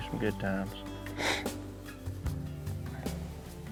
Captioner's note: sniffs